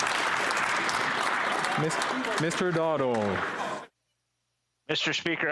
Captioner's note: applause